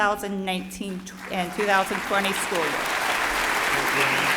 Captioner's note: applauding